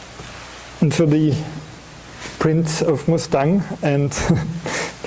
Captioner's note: chuckling